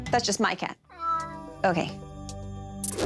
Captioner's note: cat meowing